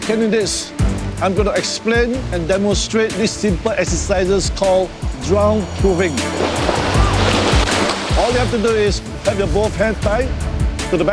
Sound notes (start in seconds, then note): 6.4 water splashing